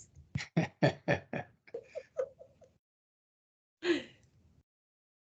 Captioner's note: laughing